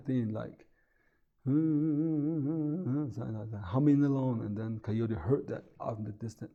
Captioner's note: humming